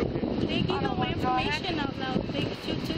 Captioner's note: radio chatter